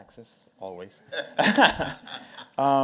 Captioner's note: laughter